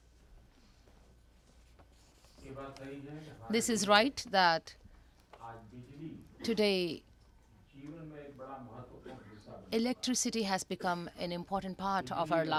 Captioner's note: through translator